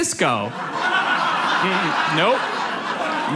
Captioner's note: audience laughs